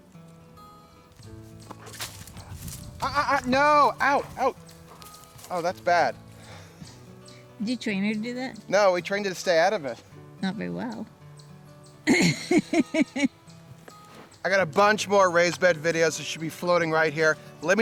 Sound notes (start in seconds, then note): 12.0 laughs